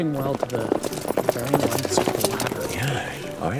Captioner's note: horse trotting sound effect